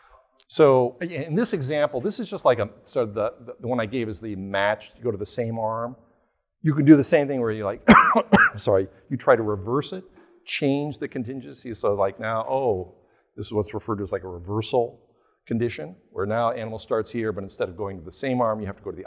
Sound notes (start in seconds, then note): 7.8 coughs